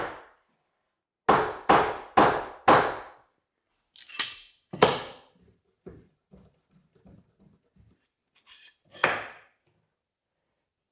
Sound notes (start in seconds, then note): 1.3 hammer thudding; 4.0 object clattering